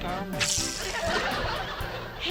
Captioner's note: fishing sounds